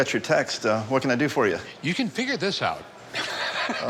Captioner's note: laughs